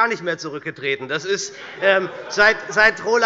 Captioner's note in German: Heiterkeit bei der SPD